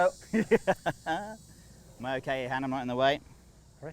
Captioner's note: laughs